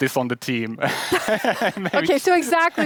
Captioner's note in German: beide lachen